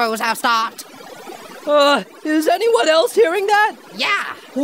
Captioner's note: static noise appears in the distance